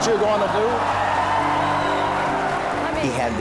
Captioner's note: audience cheering